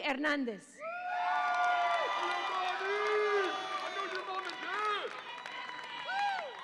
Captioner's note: audience applauds and cheers